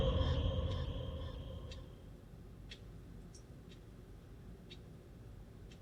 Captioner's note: clock ticking